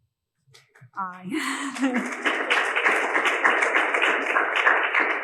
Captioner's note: audience claps